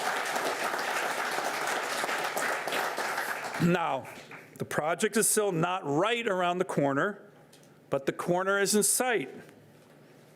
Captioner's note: applause